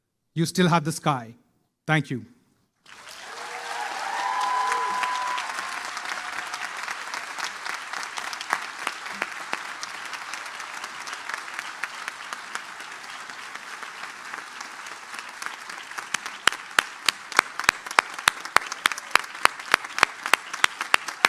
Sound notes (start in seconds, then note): 3.3 applause